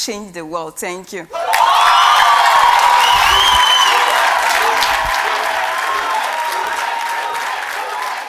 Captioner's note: cheers and Applause